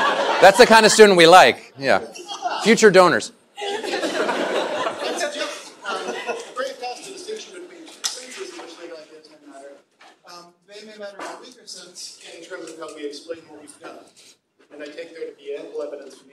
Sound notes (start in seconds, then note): 3.6 laughter